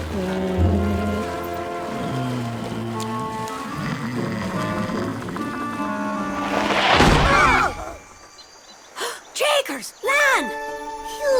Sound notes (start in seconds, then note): 1.8 Finbarr snoring; 6.4 boat crunching on beach; 9.1 gasping